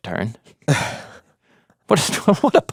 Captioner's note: chuckles